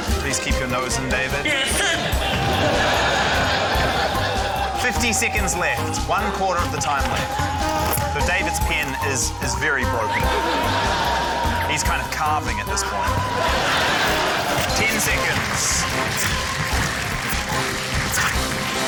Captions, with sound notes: - Please keep your nose in, David. - Yeah, it's in. (LAUGHTER) - 50 seconds left ― one quarter of the time left. David's pen is very broken. He's kind of carving at this point. 10 seconds. (APPLAUSE)